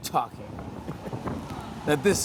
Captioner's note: chuckling; wind rushing